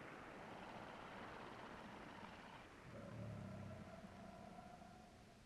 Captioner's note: creature grumbling softly